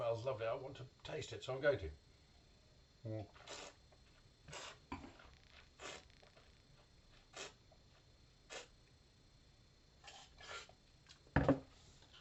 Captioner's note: slurping